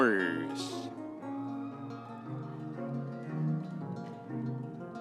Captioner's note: audience cheering